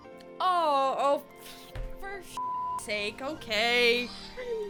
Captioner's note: beep